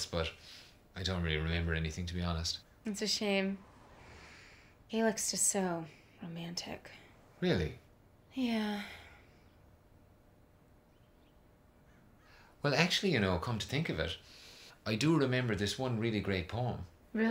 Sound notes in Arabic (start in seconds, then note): 8.6 تتنهد